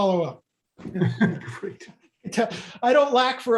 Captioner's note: laughs